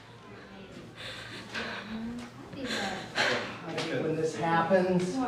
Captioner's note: Sato crying